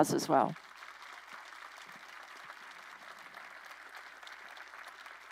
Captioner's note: crowd applauding